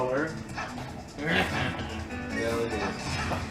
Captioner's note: medibot chuckles like Waluigi